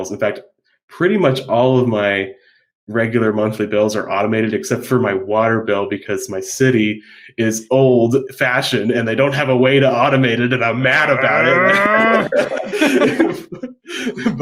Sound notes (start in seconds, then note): 11.1 growling; 11.2 both laughing